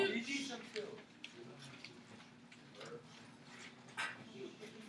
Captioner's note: classroom chatter